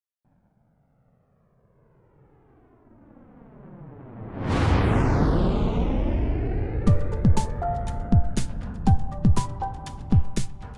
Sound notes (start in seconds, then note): 1.9 rocket engine roaring; 6.8 bright upbeat music